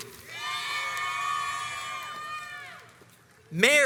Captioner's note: crowds cheers and applauds